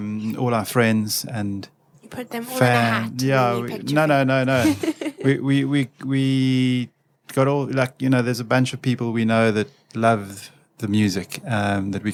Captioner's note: rambling